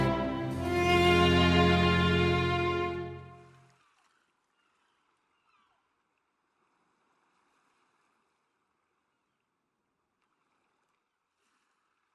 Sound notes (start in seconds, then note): 3.3 seagulls squawking; 3.3 waves crashing